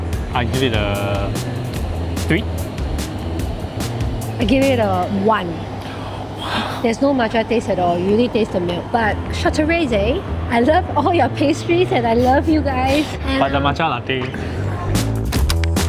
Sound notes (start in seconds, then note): 5.8 gasps